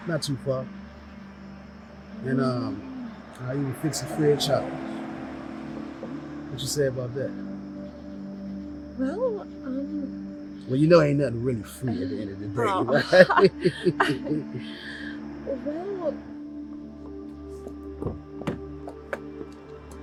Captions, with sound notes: It's not too far, and I'll even fix it free of charge. What you say about that? - Well, um... - Well you know, ain't nothing really free at the end of the day. (both laugh)